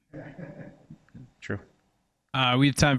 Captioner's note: audience member chuckles